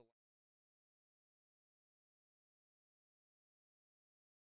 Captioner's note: audio fades out